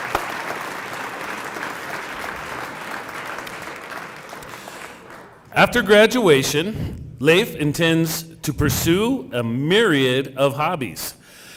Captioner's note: cheering and applause